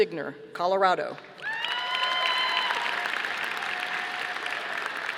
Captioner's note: audience applauding